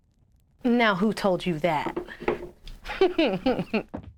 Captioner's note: giggles